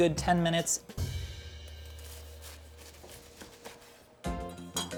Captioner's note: light percussive music; pastry lightly crackles; upbeat music